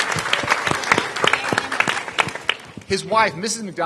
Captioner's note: applause